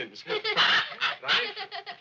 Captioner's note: both laughing